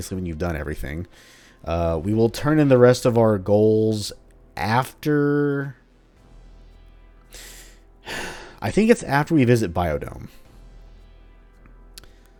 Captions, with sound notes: when you've done everything. We will turn in the rest of our goals after... *thinking sigh* I think it's after we visit Biodome.